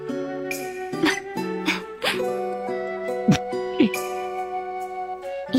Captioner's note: laugh